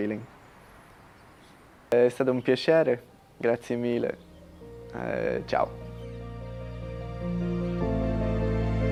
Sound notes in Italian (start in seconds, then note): 1.9 italiano